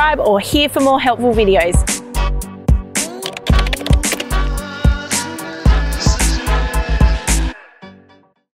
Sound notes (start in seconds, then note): 0.6 upbeat music; 3.0 typing sound